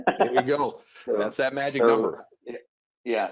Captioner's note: laughs